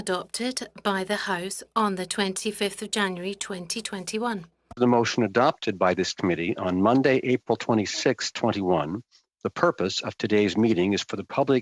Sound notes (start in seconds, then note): 2.4 speaking French